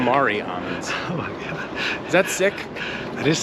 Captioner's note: laughs